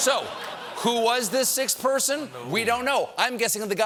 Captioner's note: laughter